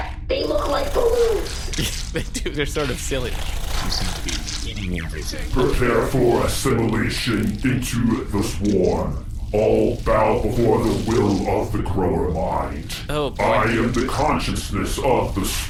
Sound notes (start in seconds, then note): 1.6 half-laughing; 3.1 consuming sound effect in background